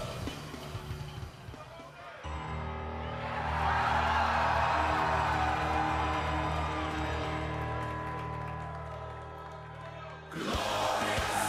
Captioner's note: crowd cheering